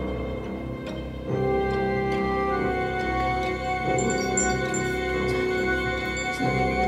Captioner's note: chimes ding